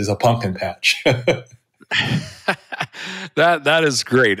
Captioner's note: chuckles